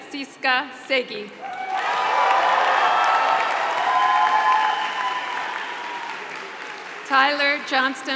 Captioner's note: applause